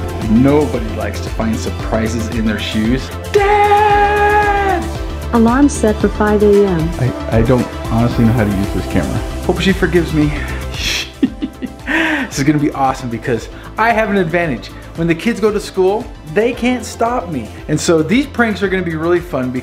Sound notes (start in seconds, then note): 10.8 shushes and giggles